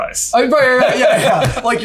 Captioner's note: both laughing